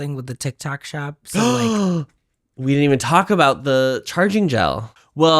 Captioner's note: gasp